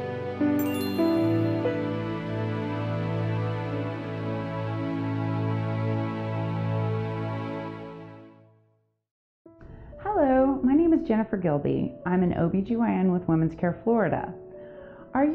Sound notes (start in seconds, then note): 0.6 logo chiming